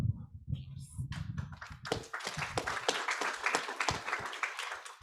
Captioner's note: audience applauds